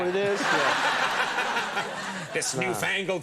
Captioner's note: audience laughs